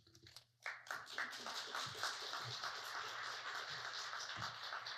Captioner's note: audience clapping